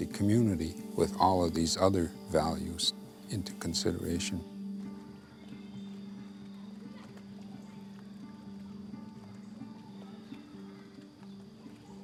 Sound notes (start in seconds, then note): 6.8 laughing and shouting